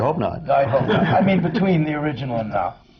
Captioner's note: laughter